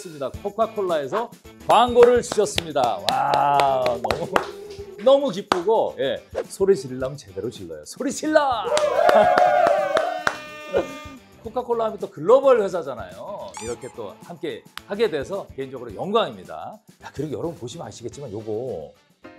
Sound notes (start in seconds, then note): 3.0 cheering / A big one came; 8.6 big cheers